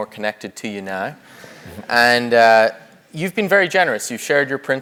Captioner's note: laugh